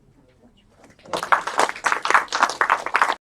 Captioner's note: applause